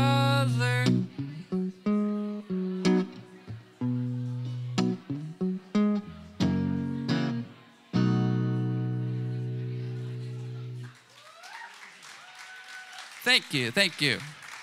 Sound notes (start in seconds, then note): 10.2 cheers and applause